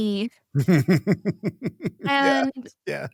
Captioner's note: laughing